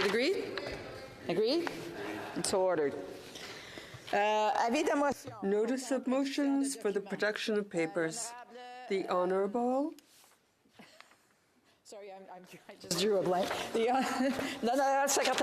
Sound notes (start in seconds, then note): 8.9 speaking French